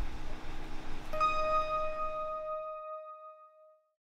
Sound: bing

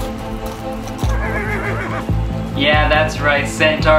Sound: horse neighing

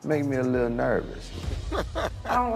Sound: laughter

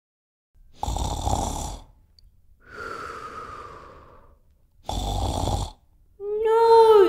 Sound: snoring

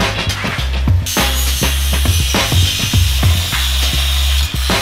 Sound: grinder whirring

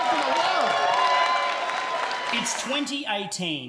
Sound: cheering and applause

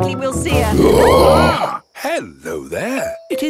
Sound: roaring, screaming

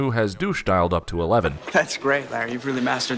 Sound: laughs

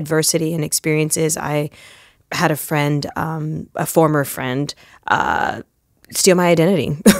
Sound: chuckle

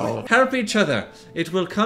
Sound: imitates old man

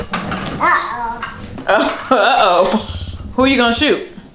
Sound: exclaims

